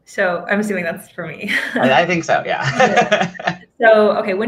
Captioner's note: laughs